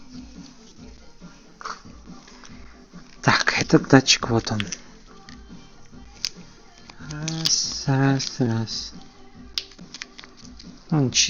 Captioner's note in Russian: фыркает